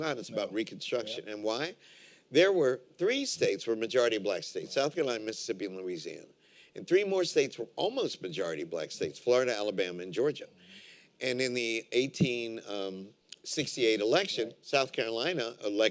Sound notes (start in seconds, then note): none